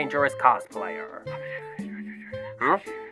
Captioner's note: whispers